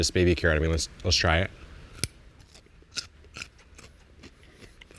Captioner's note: crunching